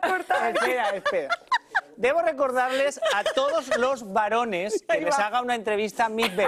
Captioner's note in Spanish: risas